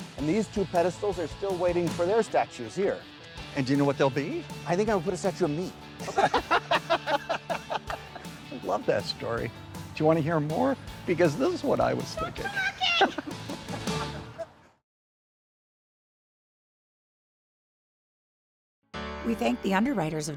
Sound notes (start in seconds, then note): 6.0 both laughing; 14.8 John laughs